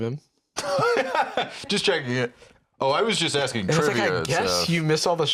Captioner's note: laughs